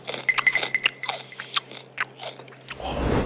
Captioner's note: keeps chewing